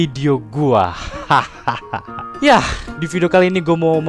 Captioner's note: evil laugh effect